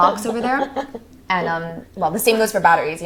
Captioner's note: Maisie laughs